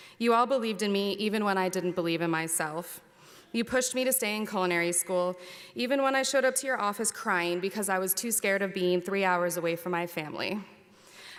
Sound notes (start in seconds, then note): none